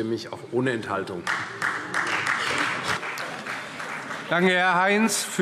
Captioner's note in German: Beifall CDU, Freie Demokraten und vereinzelt BÜNDNIS 90/DIE GRÜNEN